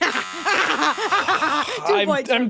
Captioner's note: buzzer buzzing; chuckling